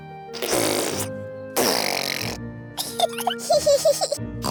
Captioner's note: sputtering; both giggling